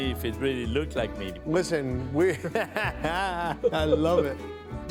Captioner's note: laughs